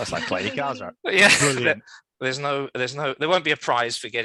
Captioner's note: laughs